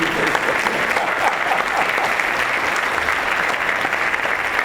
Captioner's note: applause